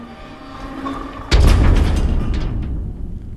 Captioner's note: gates slams closed